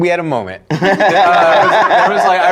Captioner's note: laughing